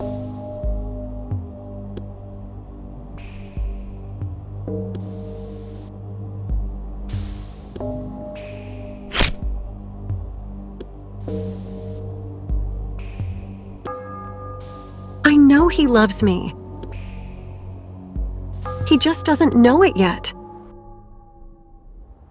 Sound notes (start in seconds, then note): 0.2 suspenseful music; 9.1 ripping sound